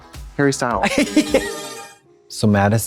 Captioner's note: bright chime